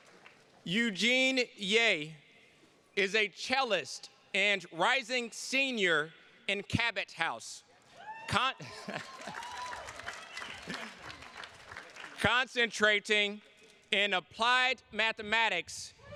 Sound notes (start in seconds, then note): 8.0 attendee cheering; 8.6 chuckles; 8.7 attendees clapping